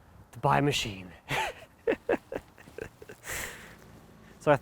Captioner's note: laughs